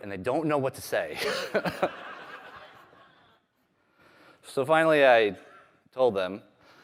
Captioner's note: laughter